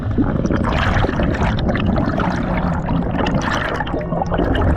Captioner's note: water bubbling